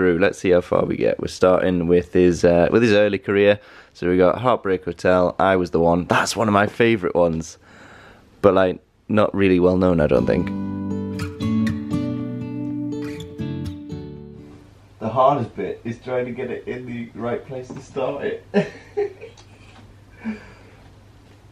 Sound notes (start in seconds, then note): 18.5 laughing